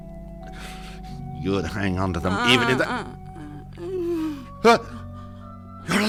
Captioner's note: moaning